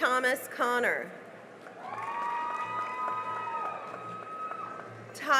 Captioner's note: cheering and applause